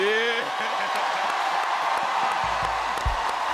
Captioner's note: cheers and applause continue